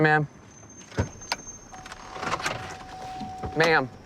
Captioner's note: car door dinging